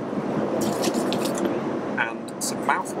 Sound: plastic rustling

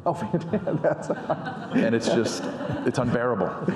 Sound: laughs

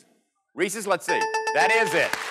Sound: dings

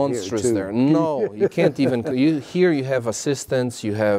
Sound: laugh

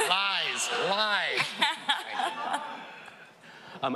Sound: laughing

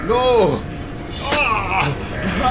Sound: slash

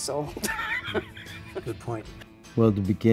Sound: laughs

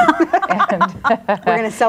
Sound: group laughs

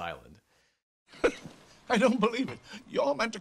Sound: scoffs

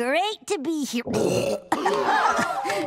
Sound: burping

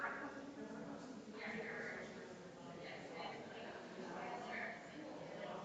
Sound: people chattering distantly continues

